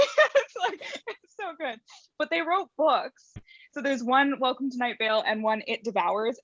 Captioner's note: laughs